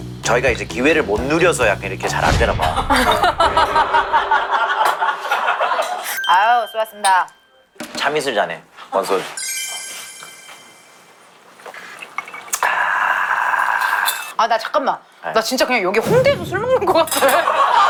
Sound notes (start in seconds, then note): 12.6 satisfied sigh